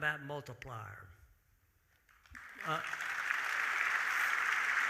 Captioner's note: audience applauding